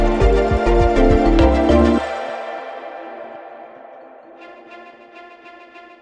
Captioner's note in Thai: ปรบมือ